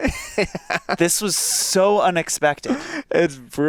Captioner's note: Joel laughing